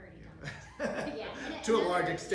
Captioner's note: laughs